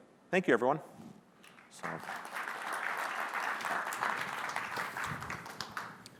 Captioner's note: applause